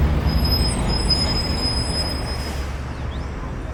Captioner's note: car braking